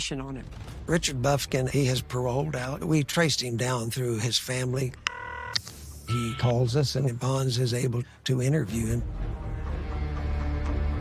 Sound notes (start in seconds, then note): 6.0 phone ringing